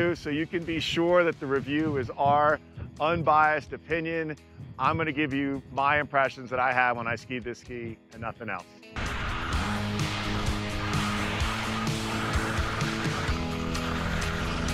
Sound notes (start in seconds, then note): 8.9 energetic music; 9.0 skis whooshing